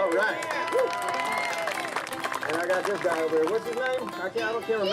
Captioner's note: applause